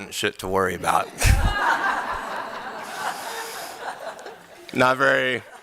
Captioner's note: laughter